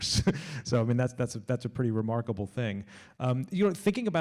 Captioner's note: laughs